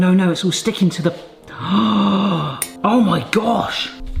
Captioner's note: gasps